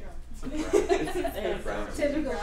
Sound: laughter

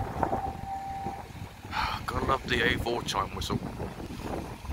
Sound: sigh of relief

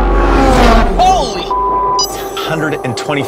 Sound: beeps

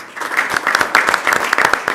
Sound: applause

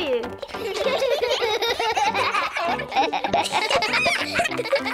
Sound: all giggle

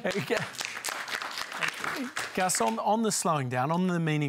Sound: applause

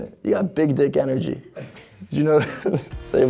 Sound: laughing

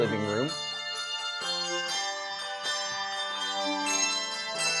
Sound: bells ringing

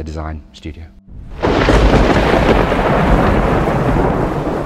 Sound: thunder rumbles

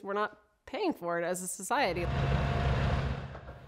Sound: bulldozer going

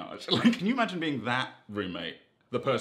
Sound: chuckles

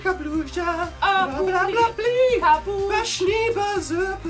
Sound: gibberish sim language

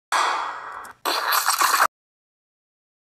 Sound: bang; splat

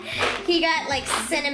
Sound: laughs

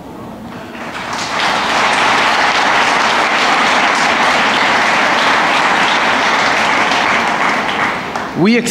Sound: applause

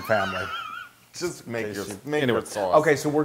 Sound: laugh

